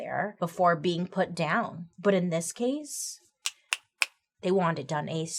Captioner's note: snaps fingers